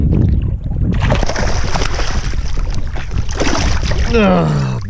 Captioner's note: water splashing